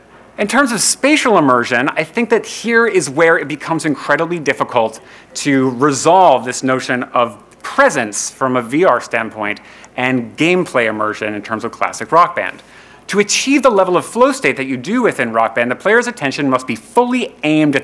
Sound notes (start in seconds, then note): none